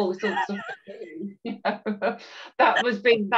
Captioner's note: chuckles